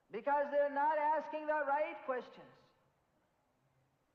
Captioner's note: in Hindi